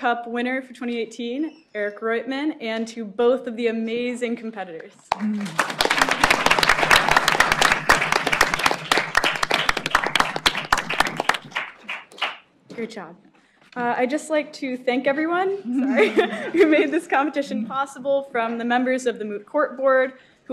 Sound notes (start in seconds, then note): 5.0 applause